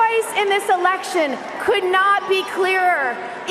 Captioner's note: cheering and applause